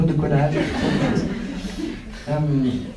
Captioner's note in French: rires